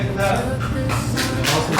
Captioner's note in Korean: 짝짝짝짝짝